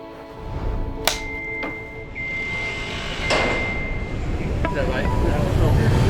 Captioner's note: vehicle beeping